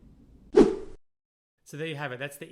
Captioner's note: air whooshes